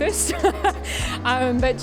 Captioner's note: laughs